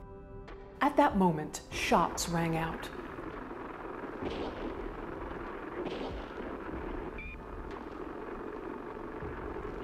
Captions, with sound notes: At that moment, shots rang out. (gunfire popping)